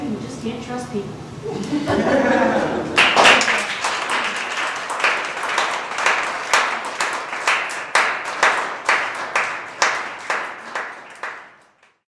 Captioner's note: audience laughter, applause